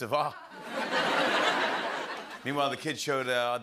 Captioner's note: laughter